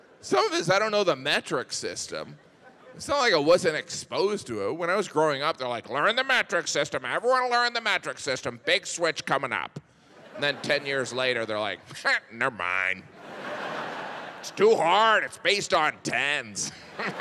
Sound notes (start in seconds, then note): 13.1 audience laughs; 16.7 audience laughs; 16.7 laughs